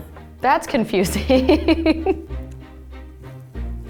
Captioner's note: laughs